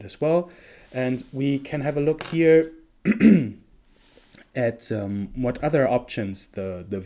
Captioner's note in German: räuspert sich